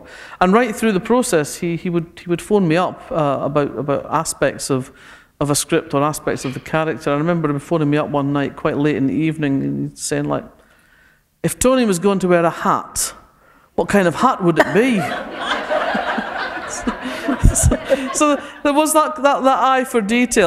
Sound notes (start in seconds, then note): 16.4 laughter